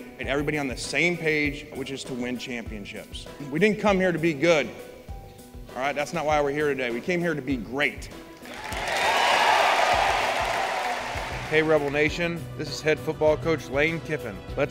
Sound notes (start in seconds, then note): 8.4 applause